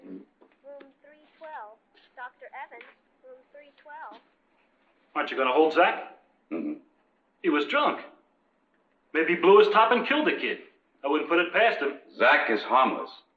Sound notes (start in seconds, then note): 2.2 woman on PA